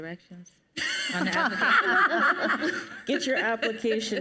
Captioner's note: panelists laugh